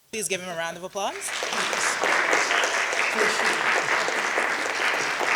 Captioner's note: audience applauding